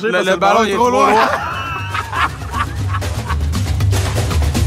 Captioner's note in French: rires